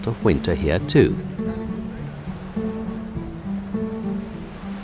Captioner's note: gently lapping waves